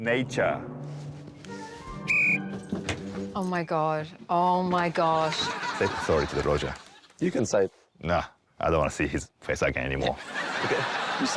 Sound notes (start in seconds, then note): 2.0 blows whistle